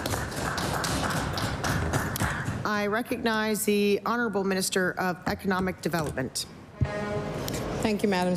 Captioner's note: applause